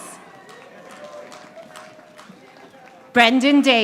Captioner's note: audience applauding